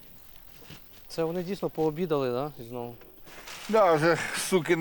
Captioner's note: shooting